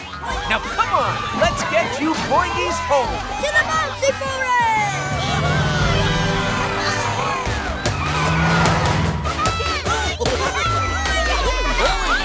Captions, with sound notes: Now, come on. Let's get you boingys home. To the Bouncy Forest! [cheering] [laughing, cheering]